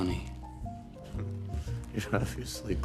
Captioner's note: chuckles sarcastically